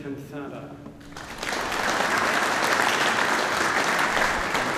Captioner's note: audience applauding